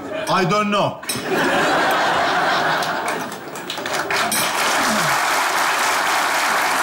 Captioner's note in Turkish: Kahkaha ve alkış sesleri